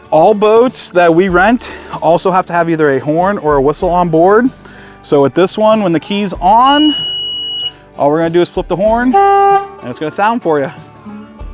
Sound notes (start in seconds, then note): 8.8 horn honking